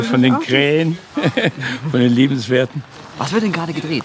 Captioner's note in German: lachend